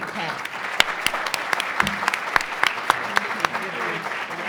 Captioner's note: applause